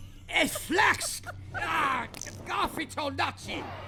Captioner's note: giggle; Horatio's frustrated grumbling